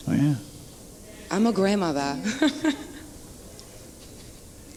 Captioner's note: laughs